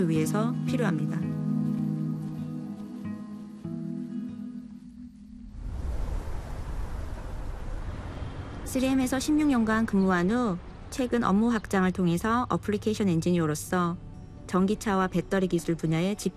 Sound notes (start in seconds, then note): 5.2 rumbling; 8.6 non-english speech